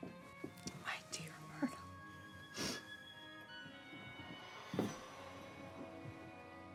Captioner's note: sniffs